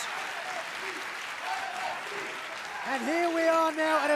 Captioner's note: crowd cheering